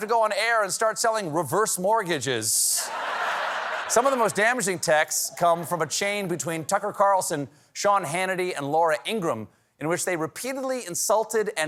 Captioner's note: laughter